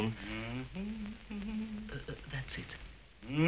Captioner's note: humming